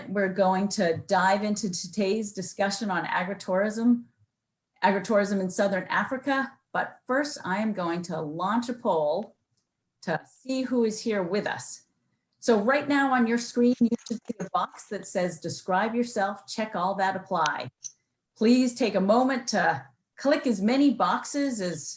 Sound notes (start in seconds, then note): 13.3 distorted sound